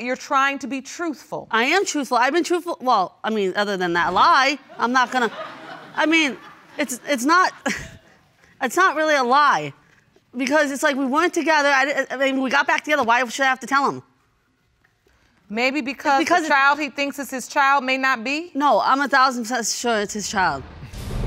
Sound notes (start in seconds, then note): 4.7 audience laughing; 7.3 chuckles